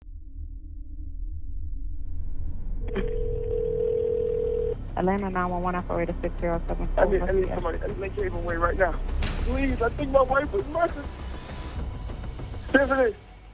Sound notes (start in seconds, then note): 1.5 tense music; 2.9 phone rings